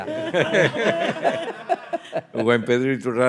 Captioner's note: speaking in Spanish; all laughing; speaking in Spanish